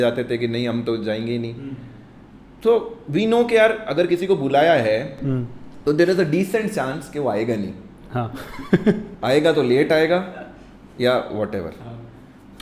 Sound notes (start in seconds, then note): 8.3 laughs